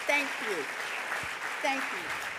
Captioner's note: audience applauding